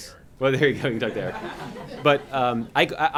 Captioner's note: laughter